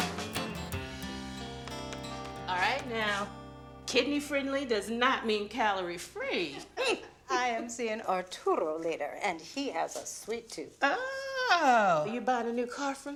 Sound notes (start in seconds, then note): 6.5 laughs